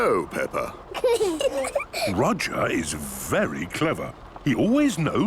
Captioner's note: children giggling